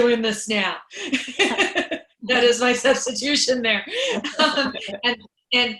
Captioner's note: laughs